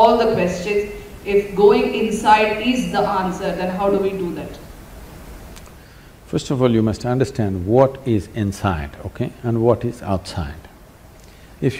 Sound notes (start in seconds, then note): none